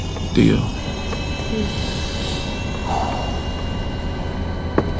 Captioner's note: sub whirring